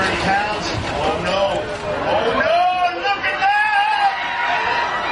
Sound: audience yelling

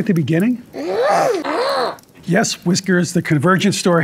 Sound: Whiskers grunts

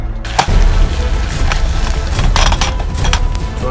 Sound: stir

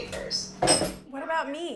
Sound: counter bangs

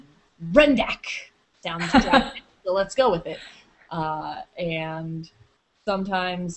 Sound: chuckles

